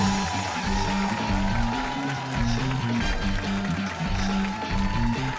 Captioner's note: cheers and applause